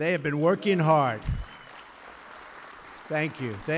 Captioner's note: applause